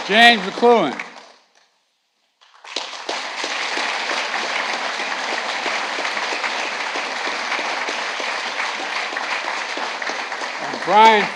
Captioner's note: applause